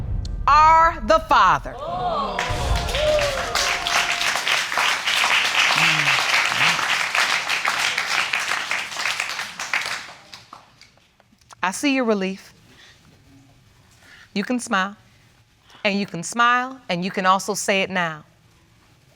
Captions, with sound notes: Are the father. (AUDIENCE EXCLAIMING AND APPLAUDING) I see your relief. You can smile. You can smile and you can also say it now...